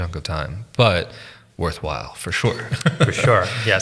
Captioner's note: laughs